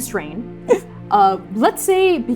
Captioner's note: gasping shakily